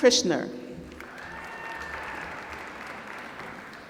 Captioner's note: applause